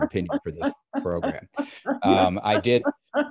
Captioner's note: laughing